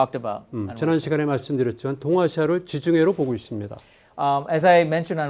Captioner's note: speaking in Korean